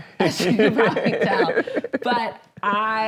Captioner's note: laughs